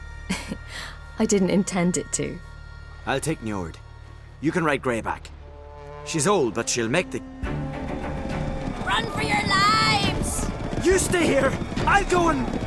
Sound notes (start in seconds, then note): 0.3 chuckle; 7.3 horn sounds